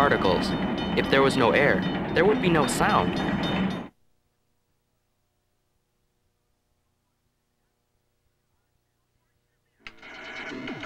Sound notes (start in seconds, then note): 7.2 silence